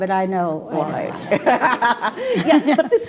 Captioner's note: laughing